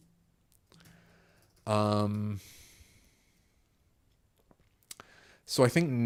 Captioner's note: silence